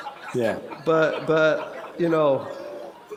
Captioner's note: laughter